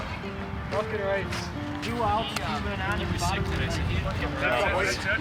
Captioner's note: indistinct conversation